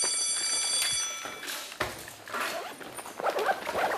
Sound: school bell ringing

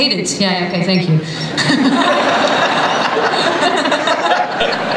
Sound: laughter

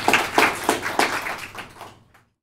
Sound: applause

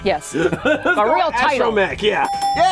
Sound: laughs; dinging

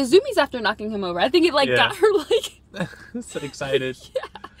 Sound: laughs

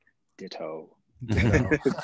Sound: laughs

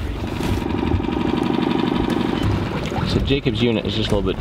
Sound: motor running

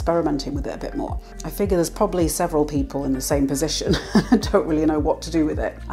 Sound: laugh

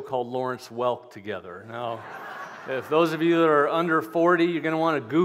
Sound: laughter

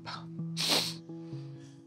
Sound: sniffles

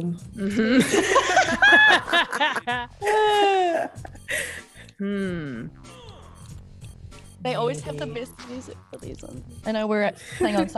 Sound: laugh

